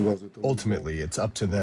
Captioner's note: through translator